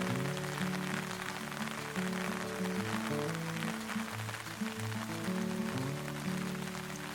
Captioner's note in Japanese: 雨の音